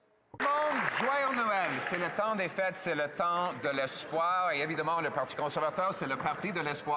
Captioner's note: some Applause